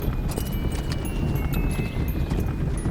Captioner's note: wagon moving; horse hooves